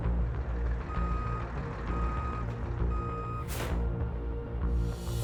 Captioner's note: truck back-up beeping